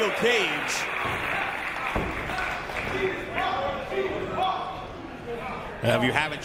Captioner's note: applause